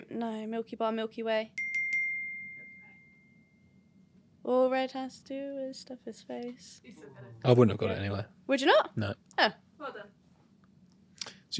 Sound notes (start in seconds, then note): 1.6 bell dings